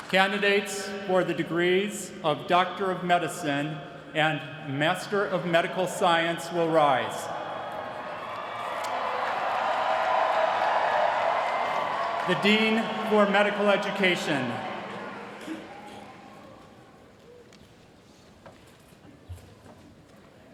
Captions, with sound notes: Candidates for the degrees of Doctor of Medicine and Master of Medical Science will rise. [CHEERING] The dean for Medical Education.